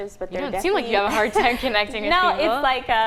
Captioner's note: laughing